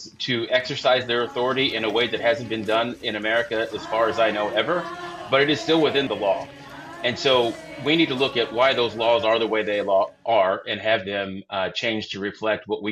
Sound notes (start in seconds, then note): 4.6 protestors chanting